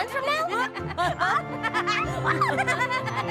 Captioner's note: laughter